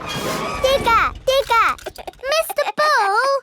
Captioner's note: chuckles